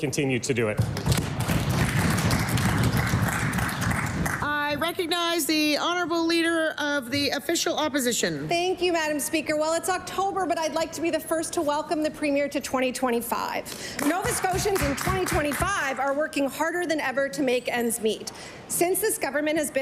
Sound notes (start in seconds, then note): 5.3 applause